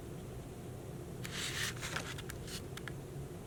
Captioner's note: paper rustling